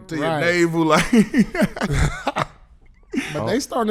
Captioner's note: laughing